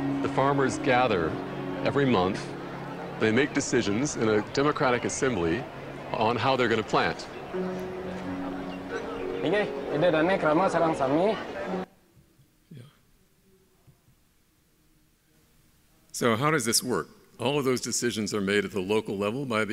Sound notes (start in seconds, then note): 9.5 man speaking in foreign language